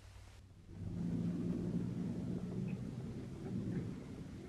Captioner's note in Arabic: هدير المحرك